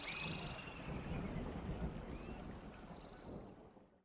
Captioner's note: thunder rumbling